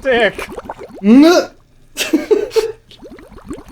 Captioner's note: mild sobbing; laughter